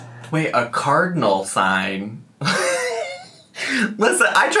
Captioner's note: laughs